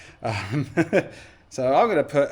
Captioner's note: laughs